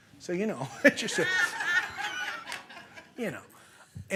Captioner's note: laughter